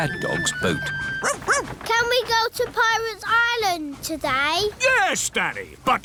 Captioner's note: barks